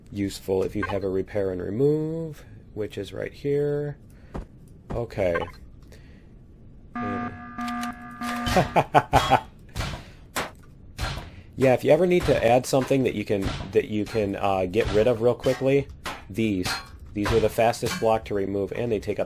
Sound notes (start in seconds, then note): 6.9 klaxon; 7.1 pinging; 8.4 laughs